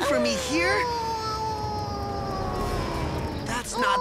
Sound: Mona starts howling

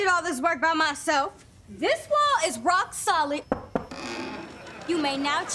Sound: knocking, creaking

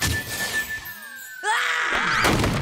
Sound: screaming

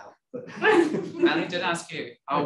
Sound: audience chuckles

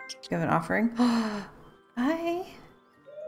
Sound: gasp

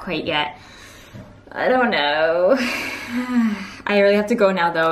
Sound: exhales

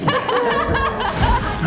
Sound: laughter

